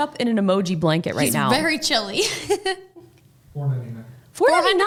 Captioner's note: chuckles